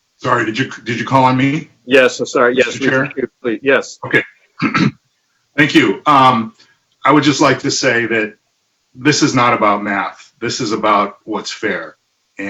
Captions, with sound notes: - Sorry, did you did you call on me? - Yes, I'm sorry, yes. - Mr. Chair? - Yes. - Okay. (clears throat) Thank you, I would just like to say that this is not about math. This is about what's fair.